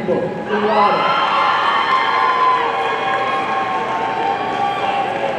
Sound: audience cheering

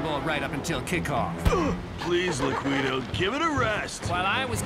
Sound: grunting

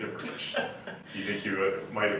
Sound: laughs

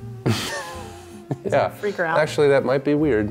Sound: laughs

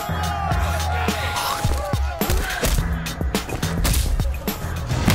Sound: upbeat hip hop music; punches crunching

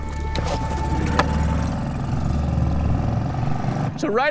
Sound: boat motor humming

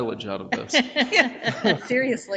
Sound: people chuckle

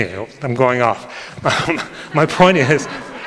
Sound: audience laughing

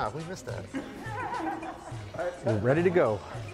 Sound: all laughing

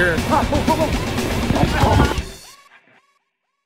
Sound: laughter

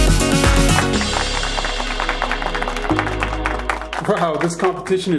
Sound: applause

